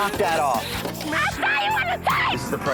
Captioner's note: screaming